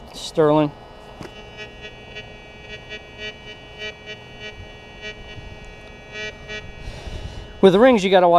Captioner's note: detector beeps